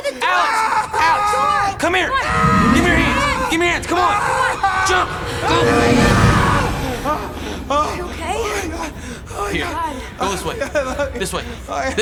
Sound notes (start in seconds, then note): 5.6 Alex groaning